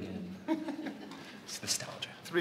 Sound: laughs

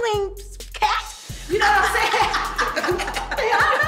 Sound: laughs

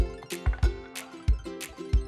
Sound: wood clattering

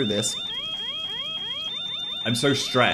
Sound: fire alarm sounds

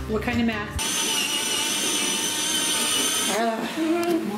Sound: saw grinding

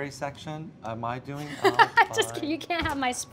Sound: laughs

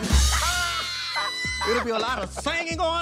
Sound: laughter

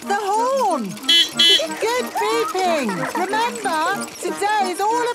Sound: giggling; beeping

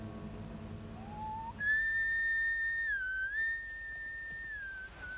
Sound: Lin whistling

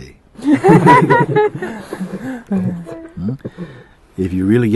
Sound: laughter

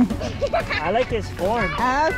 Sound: laughs

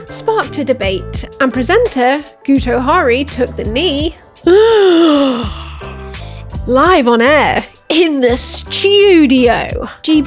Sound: gasp

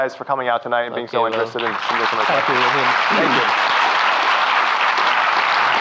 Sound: audience applauding

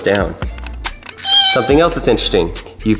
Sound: cat meows

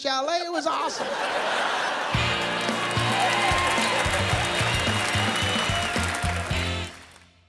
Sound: laughter, cheering

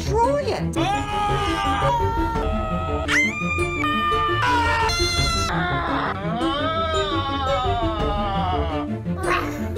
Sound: battle cries

